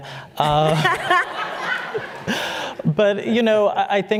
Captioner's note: laughter